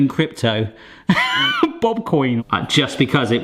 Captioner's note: laughs